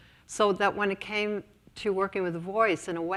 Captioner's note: none